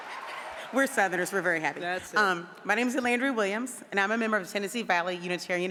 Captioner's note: applause